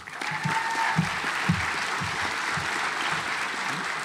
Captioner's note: audience applauds